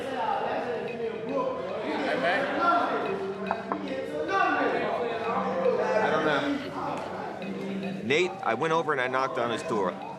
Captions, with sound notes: [knocks] Nate, I went over and I knocked on his door.